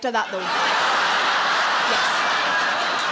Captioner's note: audience laughing